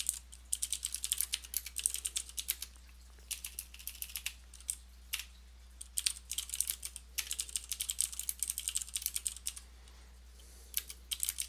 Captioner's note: typing